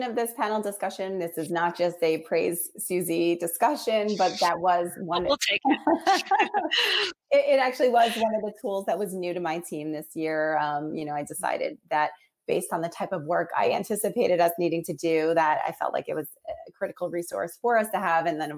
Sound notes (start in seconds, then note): 5.7 laughing